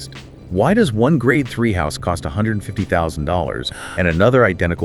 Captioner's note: gasps